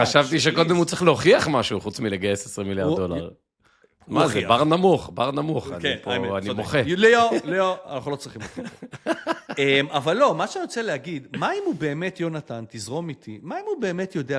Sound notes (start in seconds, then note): 8.2 laughter